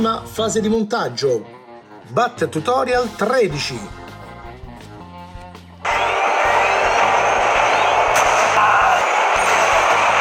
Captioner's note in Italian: Applauso